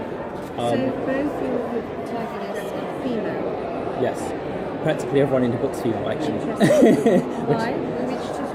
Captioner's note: laughs